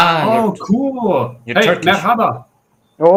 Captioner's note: Turkish